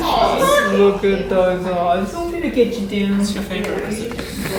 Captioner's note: chatter